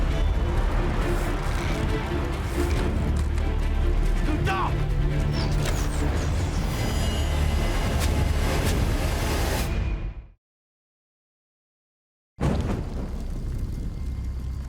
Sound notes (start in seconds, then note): 1.6 intense music; 5.3 speaking in native language